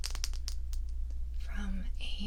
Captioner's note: marker tapping